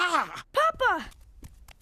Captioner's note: grunts, Groans